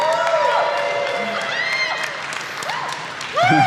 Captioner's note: cheering